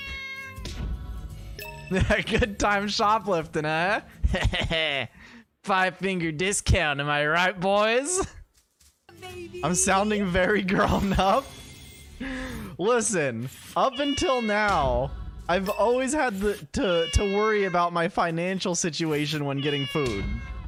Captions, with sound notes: *laughs* Good time shoplifting, huh? *nefarious chuckle* Five finger discount am I right, boys? I'm sounding very grown up? Listen, up until now I've always had to- to- to worry about my financial situation when getting food